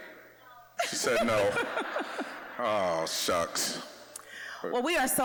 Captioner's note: audience laughing